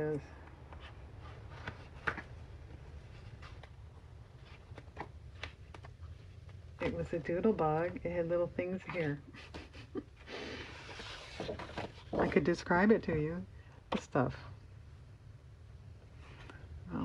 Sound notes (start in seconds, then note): 9.3 laughs